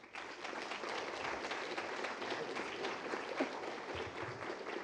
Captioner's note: applause